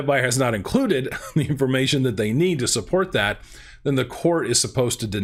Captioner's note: laughs